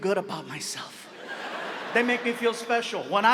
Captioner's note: audience laughs